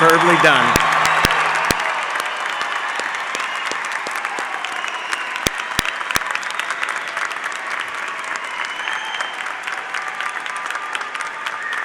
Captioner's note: cheers and applause